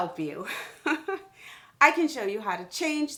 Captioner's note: chuckles